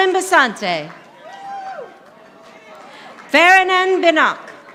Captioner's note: audience applauding